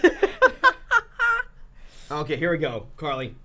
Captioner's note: laughing